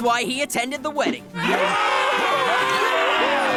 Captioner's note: cheering